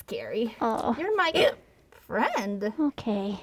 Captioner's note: hic